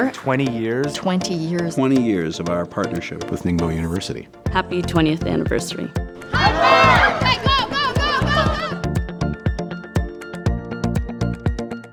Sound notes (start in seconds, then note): 6.2 group shouting; 7.3 voiceover; 8.8 bright upbeat music